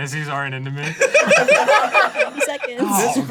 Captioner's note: laughing